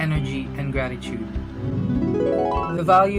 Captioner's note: dreamy transition